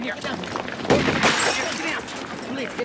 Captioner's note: shot firing